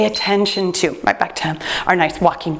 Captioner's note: timer beeps